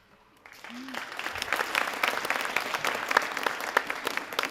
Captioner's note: audience applauding